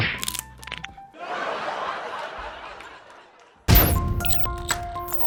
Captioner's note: laughs; suspense music